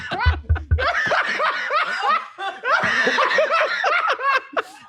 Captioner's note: laughing